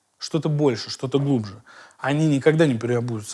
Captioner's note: none